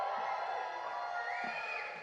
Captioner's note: cheers